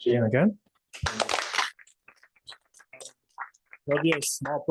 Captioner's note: applause